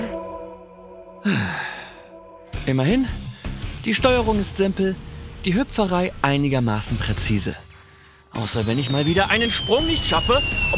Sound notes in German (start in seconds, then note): 1.2 Seufzen